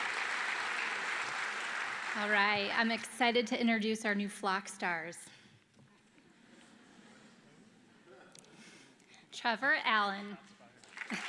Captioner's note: applause